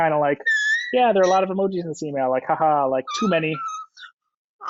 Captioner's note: laughs